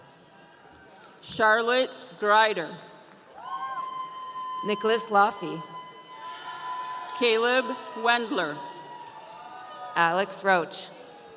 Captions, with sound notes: - Charlotte Greider. (audience cheering) - Nicholas Laffe. (audience cheering) - Caleb Wendler. - Alex Roach.